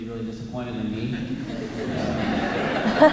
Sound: laughter

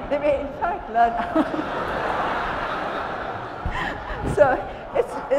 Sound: attendees laughing

